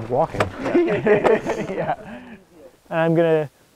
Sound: laughs

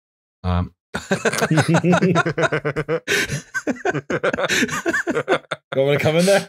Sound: laughter

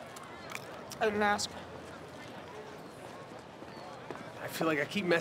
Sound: crunching

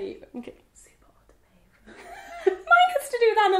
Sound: laughing; whispering

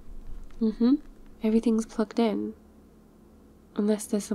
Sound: footsteps

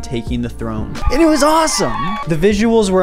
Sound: cheering in the background

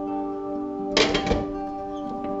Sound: ambient music; metal clanking

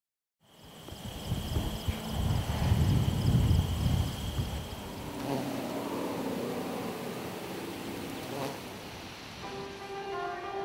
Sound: wind and crickets

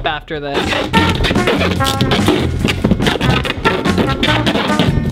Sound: taping sounds

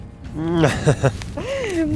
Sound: laughs

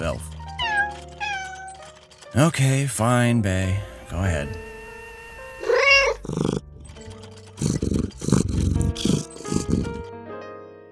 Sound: Ba’y meows

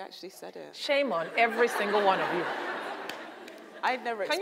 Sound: audience laughs

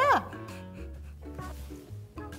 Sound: sniffing

